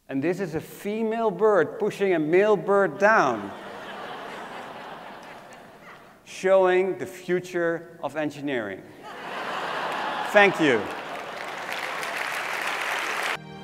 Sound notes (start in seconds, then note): 3.0 laugh; 9.0 applause